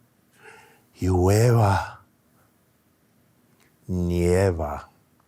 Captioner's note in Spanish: hablando en español